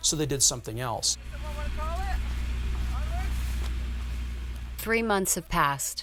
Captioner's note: protestors chattering